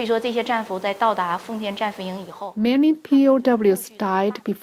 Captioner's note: speaking foreign language